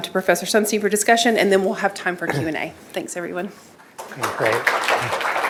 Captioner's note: applause